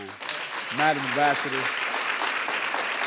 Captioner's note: applause